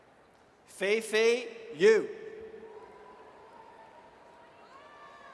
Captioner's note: audience cheers